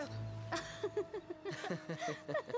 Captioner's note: Ruth laughs